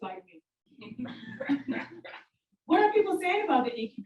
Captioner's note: audience laugh